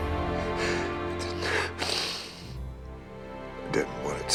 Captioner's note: crying